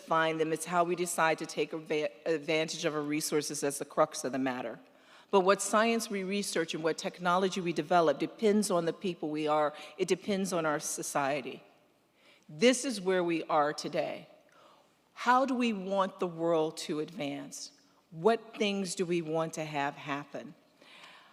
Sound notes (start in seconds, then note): none